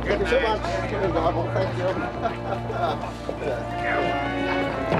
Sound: laughs

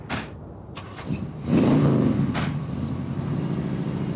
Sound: car engine sounds

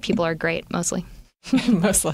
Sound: laughter

